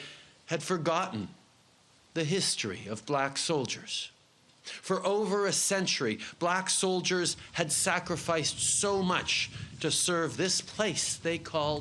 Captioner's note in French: Voix en Anglais